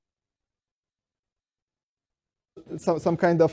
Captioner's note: audio cuts out